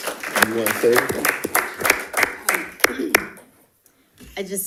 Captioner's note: people applauding